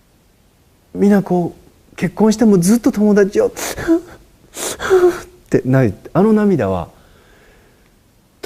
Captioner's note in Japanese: 泣きじゃくりながら